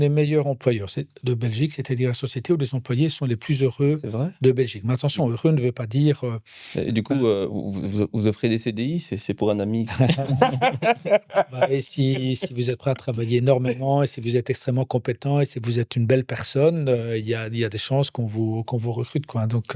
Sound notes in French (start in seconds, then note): 9.8 rires